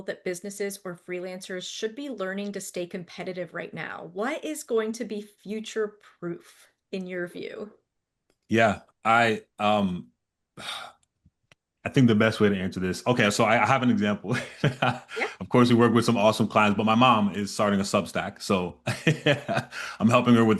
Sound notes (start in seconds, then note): 14.2 chuckles